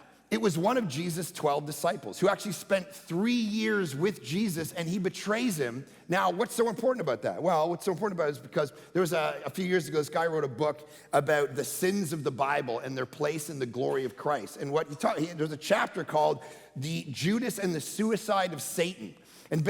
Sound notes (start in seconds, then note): none